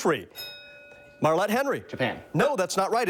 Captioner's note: bell dings